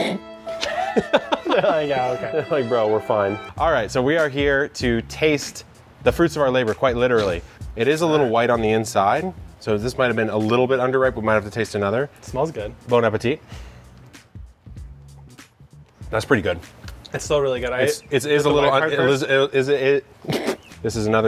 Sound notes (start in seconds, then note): 0.0 somber violin music; 0.5 laughter